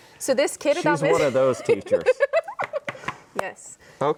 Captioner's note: laughing